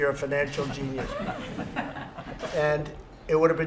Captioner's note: laughter